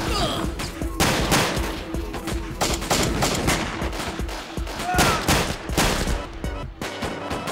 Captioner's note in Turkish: si̇lah sesleri̇; geri̇li̇m müzi̇ği̇ çaliyor